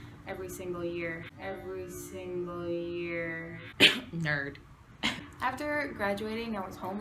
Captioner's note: cough